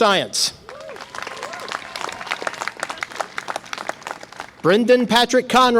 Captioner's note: audience applause and cheer